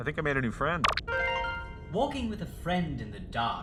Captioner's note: success chime